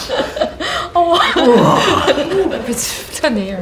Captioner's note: laughter; sighs